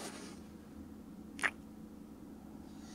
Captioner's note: kiss